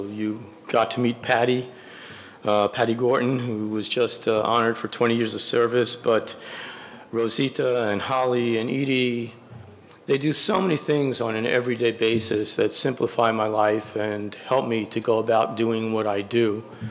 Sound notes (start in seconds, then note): none